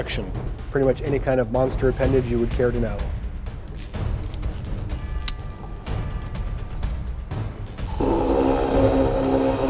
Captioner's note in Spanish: Sonidos mecánicos